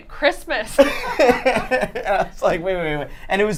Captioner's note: laughter